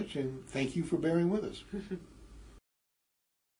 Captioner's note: laugh